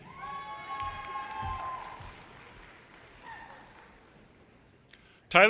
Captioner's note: audience cheers and applause